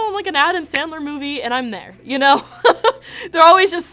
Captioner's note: laughs